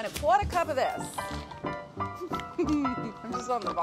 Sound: ragtime piano music; laughs

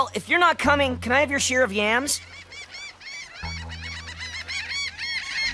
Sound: birds chirping

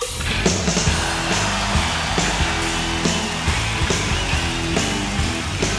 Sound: upbeat rock music; audience cheering and applauding

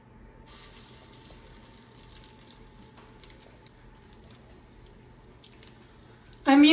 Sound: sizzling

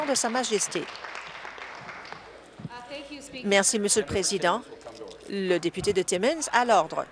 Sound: applause

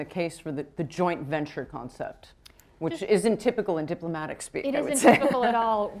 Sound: chuckles

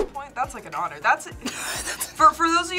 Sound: laughs

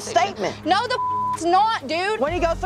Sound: beep

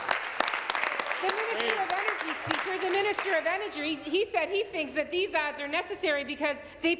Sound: some Applause

